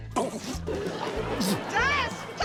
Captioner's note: gargles, chokes; spits; laughter